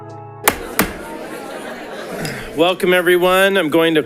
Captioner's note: audience chattering indistinctly